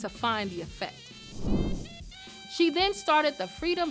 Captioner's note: air whooshes